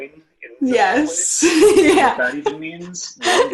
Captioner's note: laughs